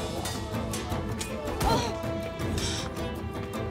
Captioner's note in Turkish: İnliyor